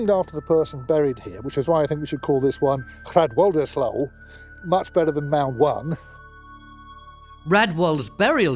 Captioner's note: speaks in Anglisc